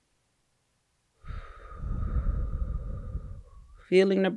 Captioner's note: breathes out